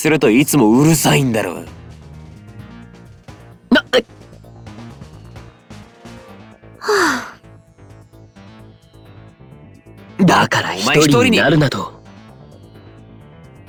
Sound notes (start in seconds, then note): 6.8 sigh